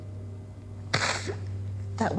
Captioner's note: crying